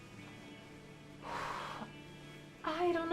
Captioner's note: woman sighs